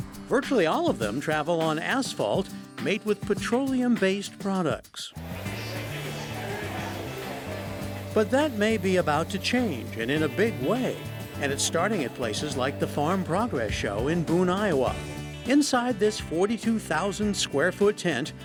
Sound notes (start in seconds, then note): 5.2 attendees chattering; 5.2 lively upbeat music